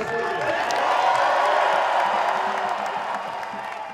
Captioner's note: crowd cheers